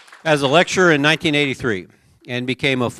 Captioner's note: applause